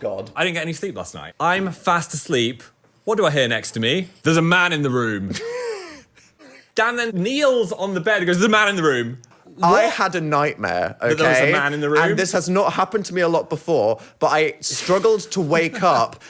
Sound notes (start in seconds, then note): 5.4 laugh